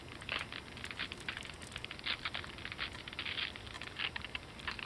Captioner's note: sounds of ice cracking